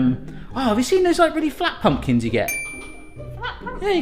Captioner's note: ding